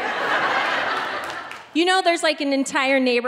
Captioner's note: audience laughing